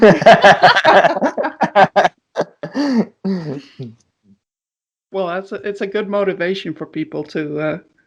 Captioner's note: laughter